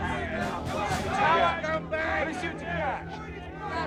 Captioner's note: men chattering